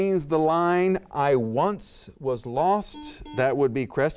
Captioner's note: buzzer beeps